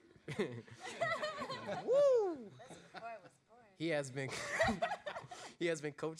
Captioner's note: laughter; laughs